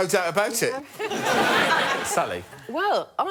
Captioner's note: laughter